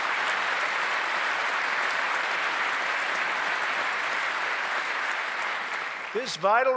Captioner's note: applause